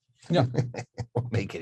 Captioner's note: laughing